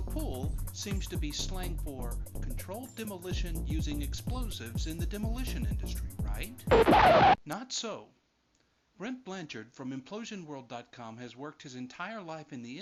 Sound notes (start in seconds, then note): 6.6 record scratch